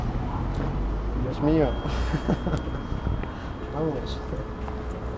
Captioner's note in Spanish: risas